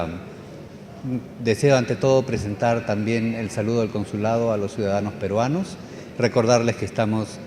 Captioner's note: speaking Spanish